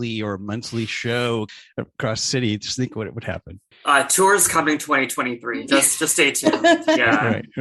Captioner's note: laughter